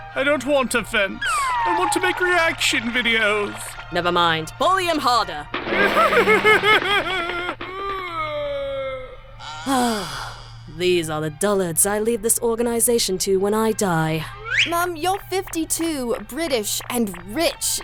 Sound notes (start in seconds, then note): 5.9 sobbing; 9.4 sigh